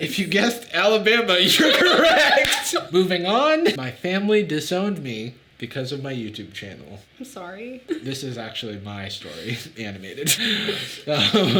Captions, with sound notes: - If you guessed Alabama, you're correct. (laughing) (laughing) Moving on. "My Family Disowned Me Because Of My YouTube Channel." - I'm sorry. - This is actually my story animated.